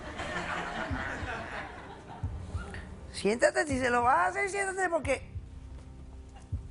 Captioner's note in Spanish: Risas